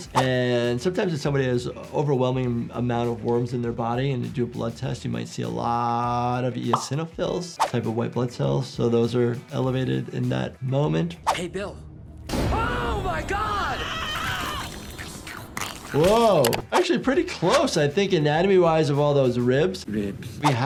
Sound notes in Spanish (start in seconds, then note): 12.5 golpes corporales; 14.0 Charlie gritando; 14.4 bichos masticando